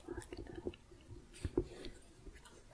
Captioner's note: tapping